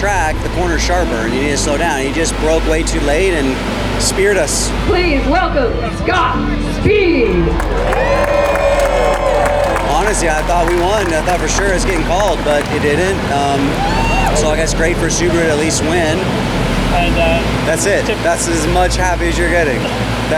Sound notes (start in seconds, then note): 8.4 crowd cheering